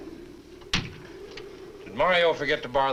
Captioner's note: door closes